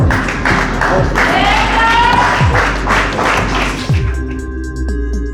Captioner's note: spectators cheering; inspired music